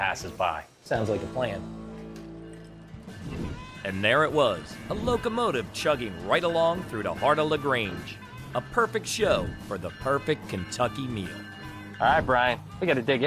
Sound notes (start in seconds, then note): 2.5 upbeat music; 10.6 bells ringing